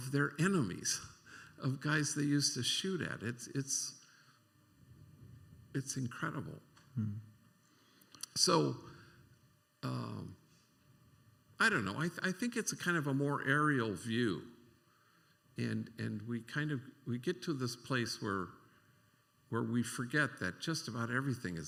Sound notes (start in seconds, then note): none